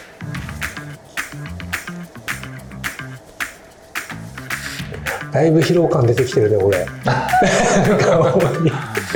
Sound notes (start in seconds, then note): 7.0 laughs